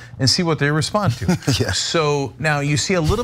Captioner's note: laugh